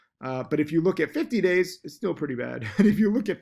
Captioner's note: laughs